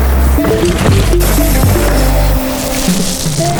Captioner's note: dirt rustling; bike gears ratcheting; dirt rustling